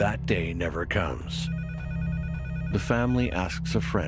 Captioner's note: phone ringing